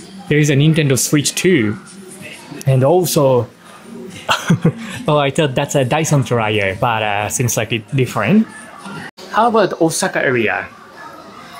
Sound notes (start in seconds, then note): 4.1 chuckles